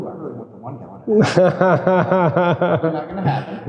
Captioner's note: laughing